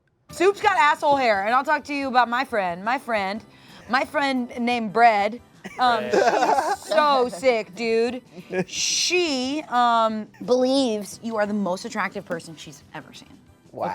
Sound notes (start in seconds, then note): 5.7 everyone laughs